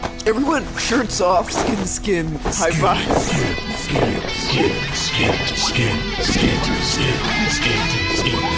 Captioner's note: chanting; music fades out